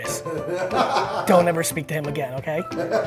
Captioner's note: crew members laugh